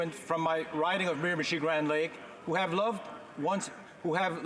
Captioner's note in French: voix de l'interprète